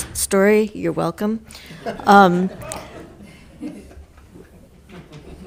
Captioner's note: committee members laughing